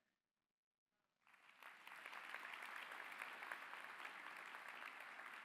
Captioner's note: applause